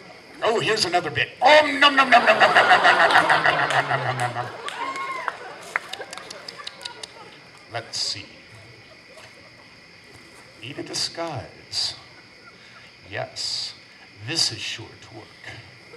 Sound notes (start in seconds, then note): 5.8 WOLF smacks lips